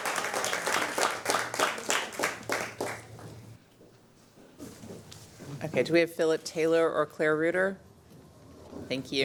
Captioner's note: applause